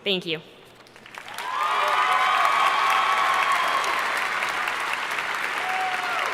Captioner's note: audience cheering and applauding